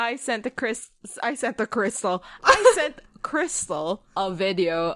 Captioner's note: laughs